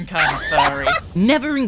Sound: guffaws

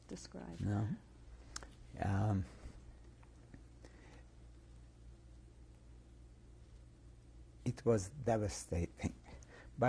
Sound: pauses for 7 seconds

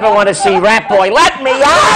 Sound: laughter

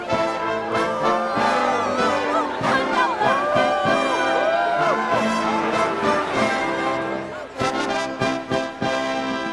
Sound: applause

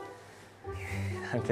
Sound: phew

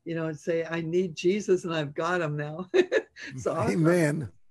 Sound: chuckles

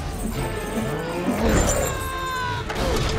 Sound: yells

